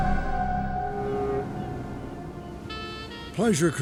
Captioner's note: cruise ship horn honking